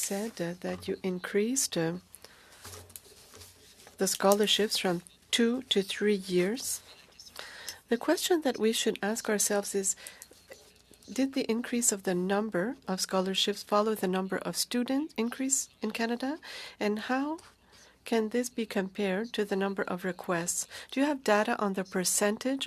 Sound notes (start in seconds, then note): 5.8 speaking French